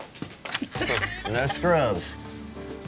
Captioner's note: chuckling